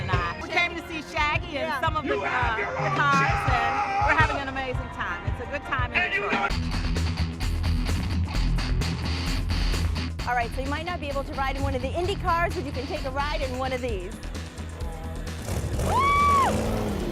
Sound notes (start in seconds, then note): 14.1 engine revving